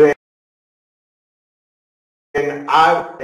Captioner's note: audio cuts off